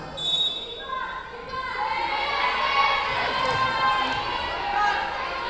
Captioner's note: whistle blowing